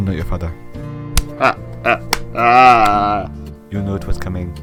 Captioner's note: Rex laughing